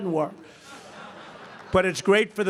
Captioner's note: laughter